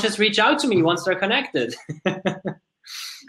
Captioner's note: laughs